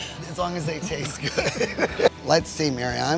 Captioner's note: laughs